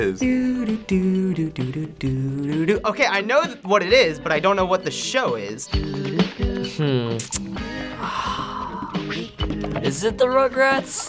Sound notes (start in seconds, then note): 0.2 singing along; 6.6 sighs